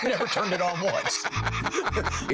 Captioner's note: laughing